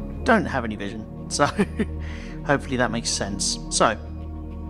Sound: laugh

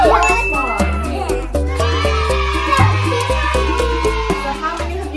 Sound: cheers

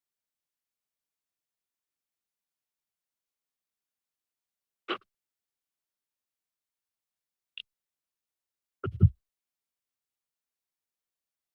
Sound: silence

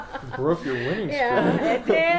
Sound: ruefully

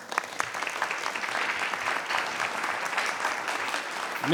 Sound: applause

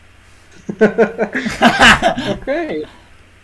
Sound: laughter

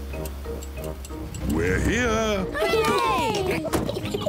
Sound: oinks; all cheer; both laugh

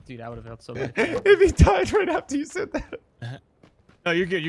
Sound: laughing

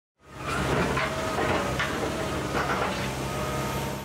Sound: digger whirring

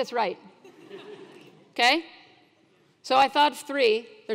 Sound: laugh

